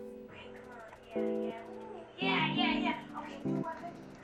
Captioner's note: chatter